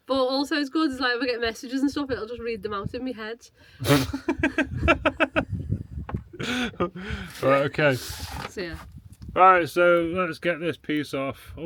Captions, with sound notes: But also as good as like, if I get messages and stuff, it'll just read them out in my head. (laughing) All right, okay. See ya. All right, so let's get this piece off.